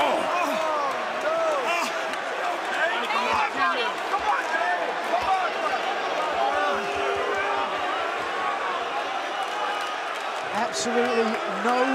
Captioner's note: crowd chatter